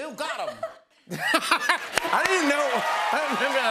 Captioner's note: laughs